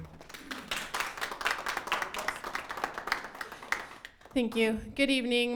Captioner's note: attendees applauding